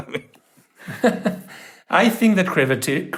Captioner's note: both laughing